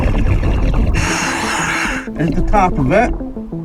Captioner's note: oxygen bubbling in water; oxygen tank hissing